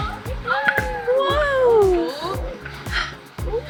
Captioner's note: crowd